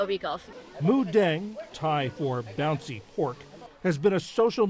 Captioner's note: voice-over